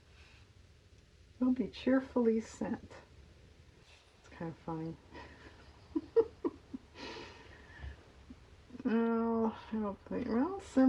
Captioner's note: laughs